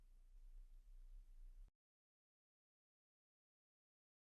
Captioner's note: silence